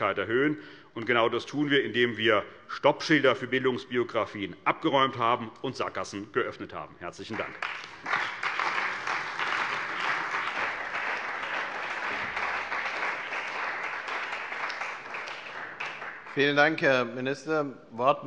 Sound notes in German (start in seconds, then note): 7.3 Beifall bei der CDU und dem BÜNDNIS 90/DIE GRÜNEN